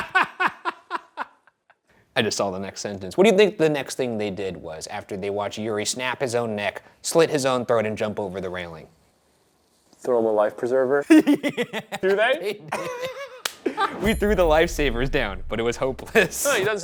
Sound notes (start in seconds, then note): 0.0 Shane laughs; 11.1 laughs; 13.8 Shane laughs